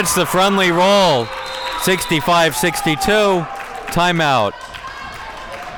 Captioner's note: audience cheering